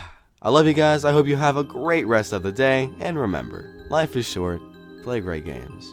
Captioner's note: sigh